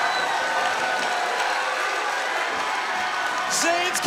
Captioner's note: crowd cheers